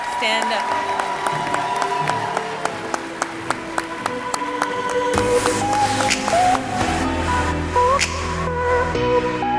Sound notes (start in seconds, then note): 1.7 audience cheering; 1.7 audience clapping; 5.6 upbeat music